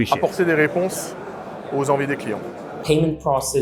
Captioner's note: speaks French